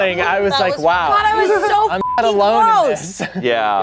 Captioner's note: beep